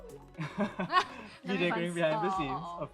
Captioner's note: both laugh